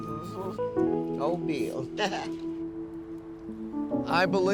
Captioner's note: chuckles